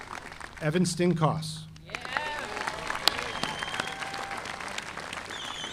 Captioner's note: audience applauding